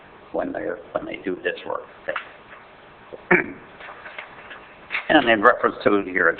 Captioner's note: clears throat